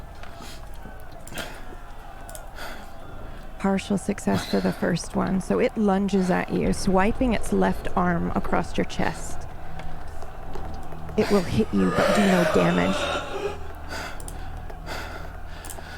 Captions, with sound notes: Partial success for the first one. So it lunges at you, swiping its left arm across your chest. It will hit you, but do no damage. [creature, crying] Raea... It will hit you, but do no damage. [creature, crying] Raea...